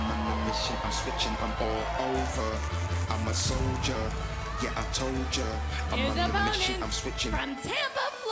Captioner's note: crowd cheering